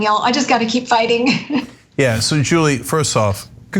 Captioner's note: laugh